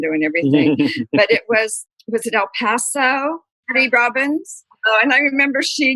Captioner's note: laughter